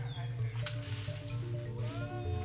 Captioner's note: distant chanting